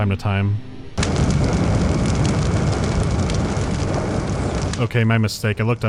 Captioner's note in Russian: звук лечения повторяется снова и снова; оглушающий рёв невидимого огня